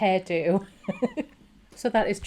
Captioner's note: laughing